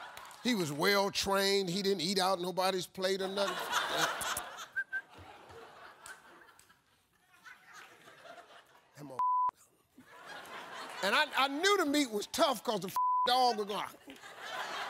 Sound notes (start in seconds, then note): 2.8 whistles; 9.2 beep; 12.9 beep